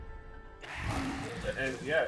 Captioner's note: monster growling